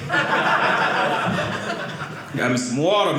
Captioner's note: audience laughing